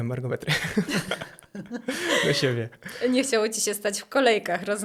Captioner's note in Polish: śmiech